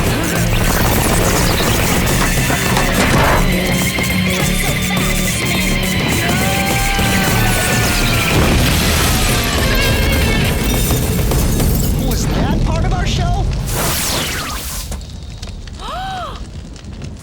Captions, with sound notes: Your youth second waves are over. [grunting] Not so fast, Smith. No! [boom] Was that part of our show?